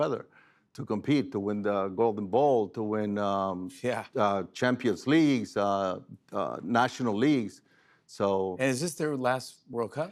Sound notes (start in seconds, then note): none